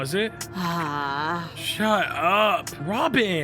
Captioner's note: Robyn sighs